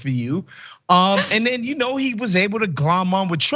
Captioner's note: laugh